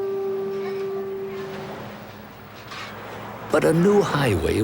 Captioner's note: cars whooshing